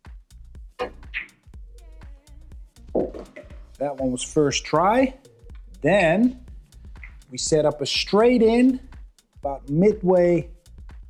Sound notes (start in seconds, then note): 1.0 billiard balls clanging